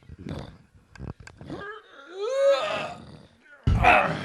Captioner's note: dragging and grunting